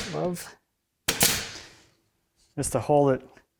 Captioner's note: stapler snaps